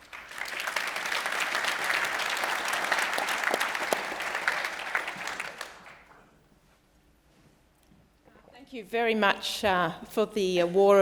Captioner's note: applause